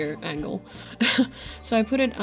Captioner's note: nervous laugh